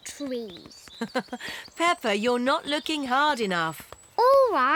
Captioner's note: laughs